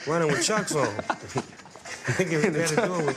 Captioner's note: both laugh